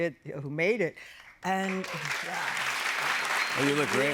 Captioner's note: cheers and applause